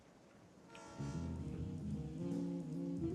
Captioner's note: train horn blares